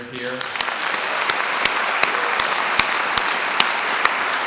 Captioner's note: audience applauding